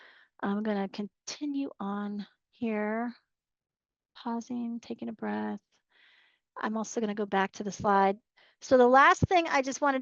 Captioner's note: pausing, taking a breath